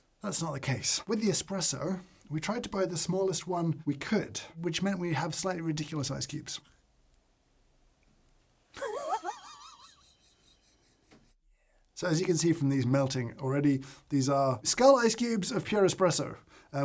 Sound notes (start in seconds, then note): 8.7 laughs